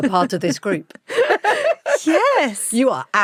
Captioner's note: both laughing